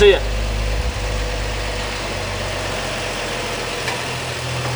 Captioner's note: car engine roaring